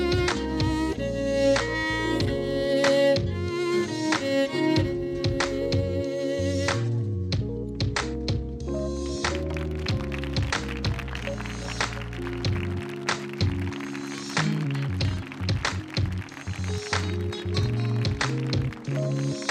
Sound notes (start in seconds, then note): 9.3 audience applauding; 10.1 audience cheering